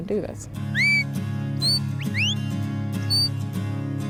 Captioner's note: whistling